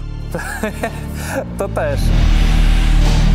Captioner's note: laughter